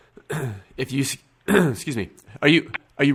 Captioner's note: cough